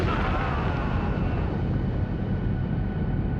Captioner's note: screams